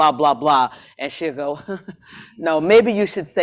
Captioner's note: laughs